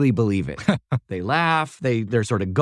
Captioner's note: laugh